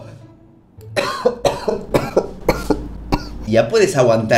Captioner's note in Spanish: cof